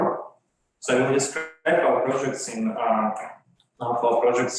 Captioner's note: microphone cracks